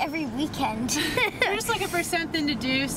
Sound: laughing

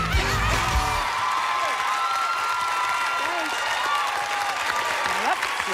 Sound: cheers and applause

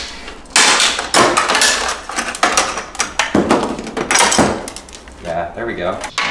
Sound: cracking; clunking

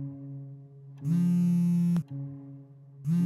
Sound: phone vibrates

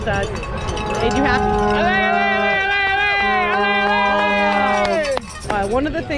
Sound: specators cheering, vuvuzela sounds, cowbells rattling

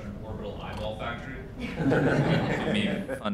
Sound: laughter

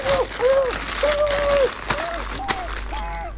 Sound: muffled Screaming

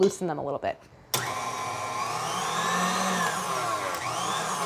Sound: mixer whirring

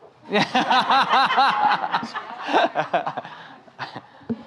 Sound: audience laughing

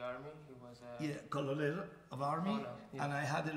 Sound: speaking in farsi

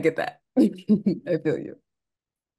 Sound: giggles

